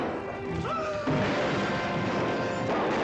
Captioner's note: gasps